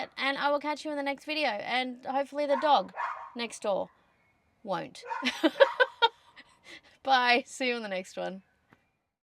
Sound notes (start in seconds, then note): 2.5 woof, ruff; 5.0 laughs while dog continues to bark